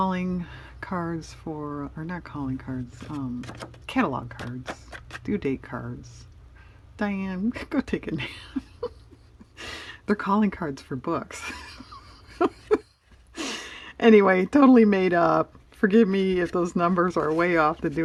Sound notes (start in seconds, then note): 8.2 laughs; 11.4 laughs